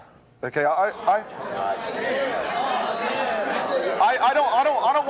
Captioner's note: audience shouting